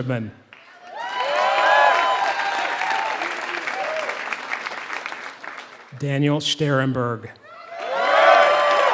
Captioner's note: applause; applause